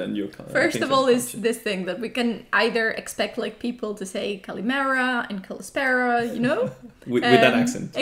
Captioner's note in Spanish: con acento gringo